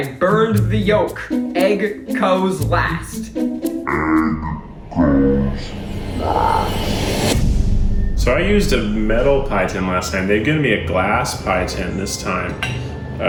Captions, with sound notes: I burned the yolk. Egg goes last. Egg goes last. (whoosh) - So I used a metal pie tin last time, they gave me a glass pie tin this time.